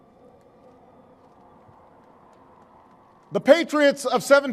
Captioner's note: applause